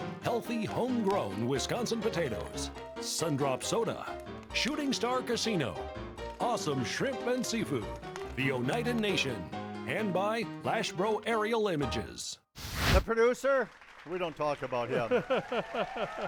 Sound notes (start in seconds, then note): 12.6 fire grills; 14.6 audiences cheering; 15.0 laughing